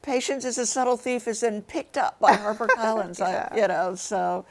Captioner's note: laughs